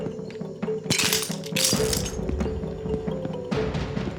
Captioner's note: suspenseful music; glass shattering